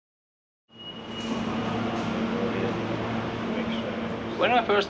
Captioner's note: metro noise